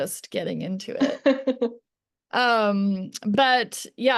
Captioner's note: laughs